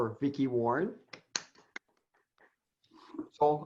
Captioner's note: clapping